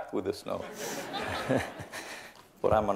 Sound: laughter

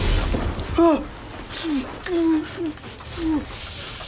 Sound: whimpers in pain

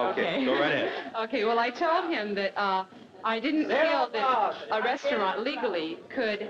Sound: protester chanting

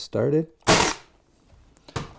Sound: staple gun

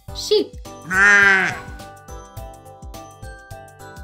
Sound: sheep bleating

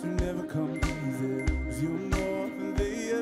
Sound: computer dinging

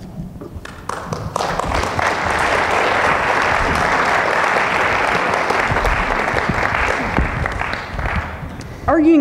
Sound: audience clapping

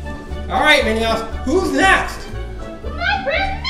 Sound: voiceover

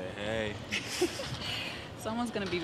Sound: laughter

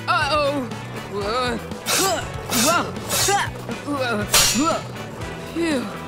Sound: grunting

